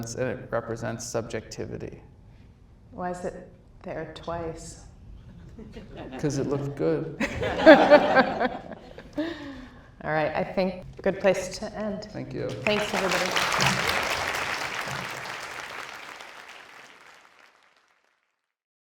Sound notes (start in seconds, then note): 7.2 audience laughs; 12.5 audience applauds